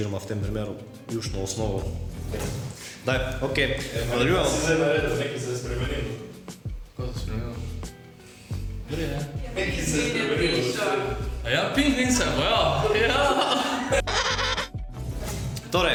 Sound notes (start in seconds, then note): 14.0 penguin noises